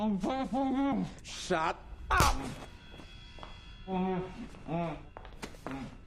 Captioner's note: WHlTE MOANS